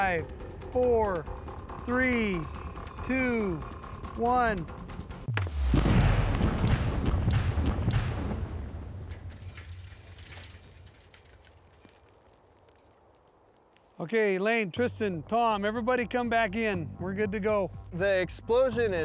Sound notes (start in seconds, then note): 5.3 explosions